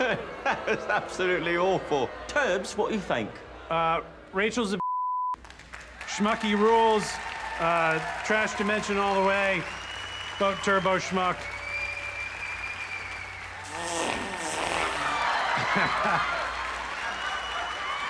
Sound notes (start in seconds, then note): 11.5 audience cheers, applauds; 13.6 farts; 13.9 audience laughs